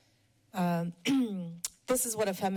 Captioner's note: clears throat